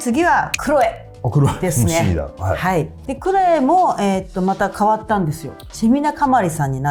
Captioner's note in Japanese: 咳払い